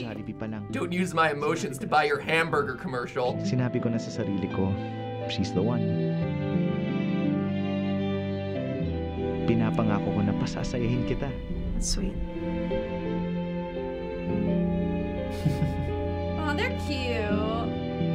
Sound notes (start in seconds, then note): 3.6 man speaks Filipino; 9.2 speaking Filipino; 15.2 chuckles